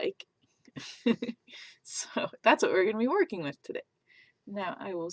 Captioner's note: laughs